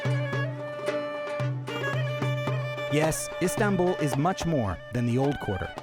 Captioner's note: none